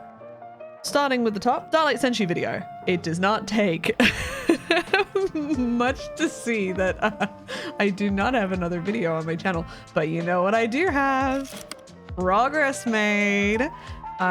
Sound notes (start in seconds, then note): 4.0 laugh; 4.1 chuckle; 9.9 sing-song